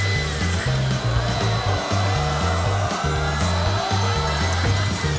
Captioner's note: audience yells